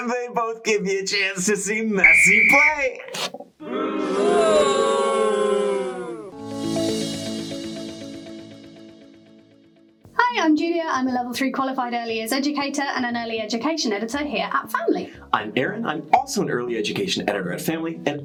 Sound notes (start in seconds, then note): 3.6 people booing; 6.3 upbeat music